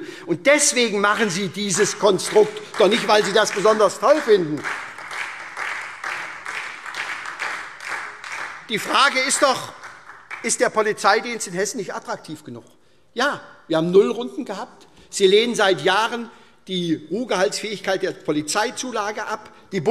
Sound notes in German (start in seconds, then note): 4.6 Beifall SPD und vereinzelt Freie Demokraten